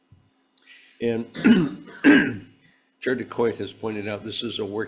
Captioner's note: clears throat